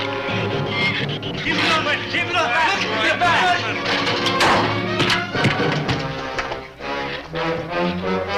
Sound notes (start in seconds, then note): 4.9 fist thuds